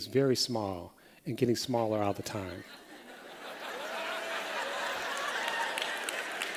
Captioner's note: laughter